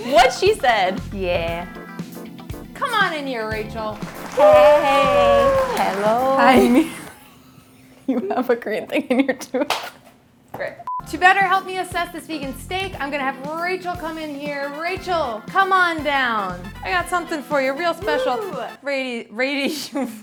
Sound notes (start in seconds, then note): 2.1 upbeat music; 4.0 cheering; 10.1 laughing